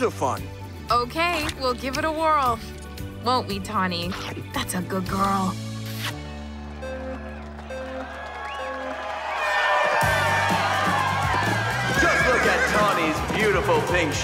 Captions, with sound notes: Okay, we'll give it a whirl. Won't we Tawny? That's a good girl. [crowd cheers] Just look at Tawny's beautiful pink streaked mane